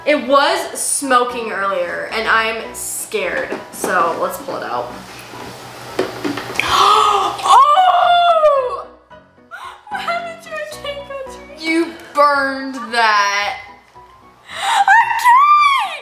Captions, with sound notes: It was smoking earlier and I'm scared, so let's pull it out. (both gasp) - Oh! - What happened to our cake, Audrey? - You burned that. - Our cake!